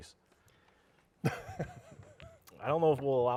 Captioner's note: chuckling